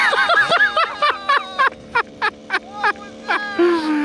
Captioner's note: laughing